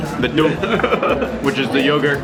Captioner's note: laughing